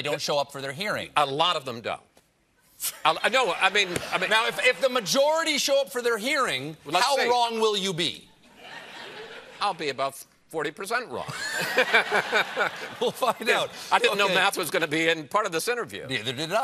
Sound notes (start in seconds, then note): 11.2 laughter